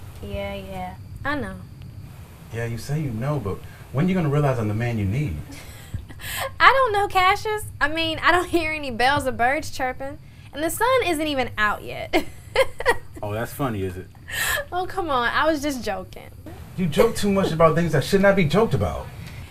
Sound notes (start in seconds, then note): 12.0 woman laughing